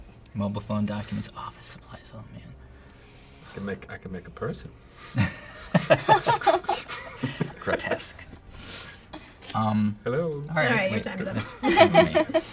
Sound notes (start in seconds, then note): 5.1 laughter